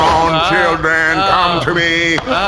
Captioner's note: fabric rustling, Pleck makes vaguely alarmed noises